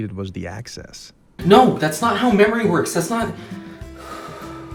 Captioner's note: deep breath